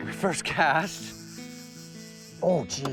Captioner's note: laughing